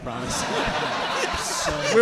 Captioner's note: audience laughing